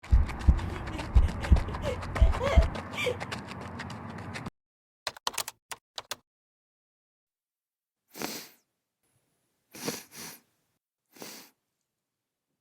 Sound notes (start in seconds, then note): 7.3 sniffles